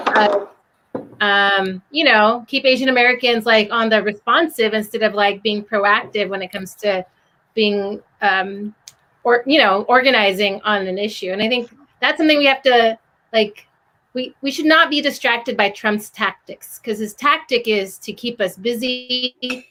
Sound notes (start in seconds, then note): none